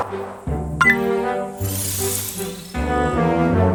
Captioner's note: click